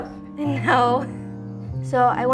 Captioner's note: chuckles